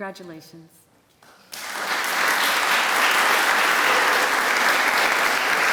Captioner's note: applause